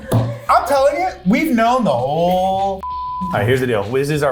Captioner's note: beep